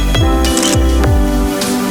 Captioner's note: photo Click